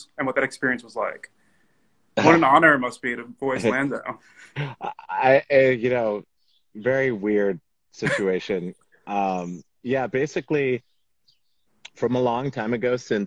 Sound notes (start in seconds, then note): 8.0 laughs